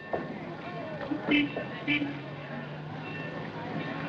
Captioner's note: horn Honking